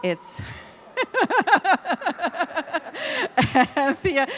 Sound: laughing

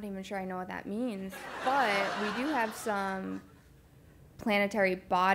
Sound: laugh

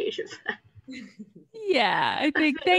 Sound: laughs

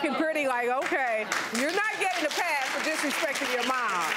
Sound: applause

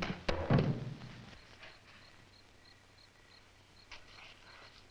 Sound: critters chittering

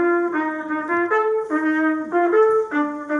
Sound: uncertain steps

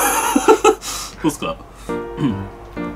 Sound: laughter

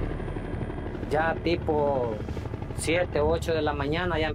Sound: speaking Spanish

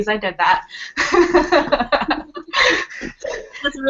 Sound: laughter

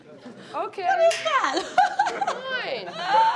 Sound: laughing

